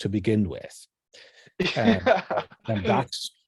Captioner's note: laughs